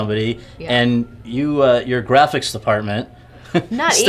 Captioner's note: laughs